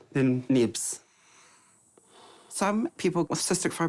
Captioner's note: air hisses